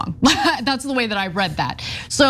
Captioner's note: laugh